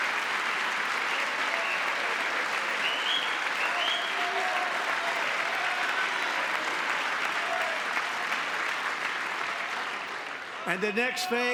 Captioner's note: applause